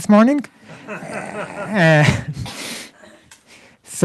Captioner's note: laughter